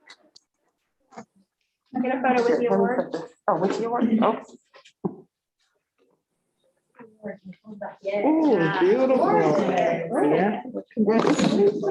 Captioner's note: indistinct chatter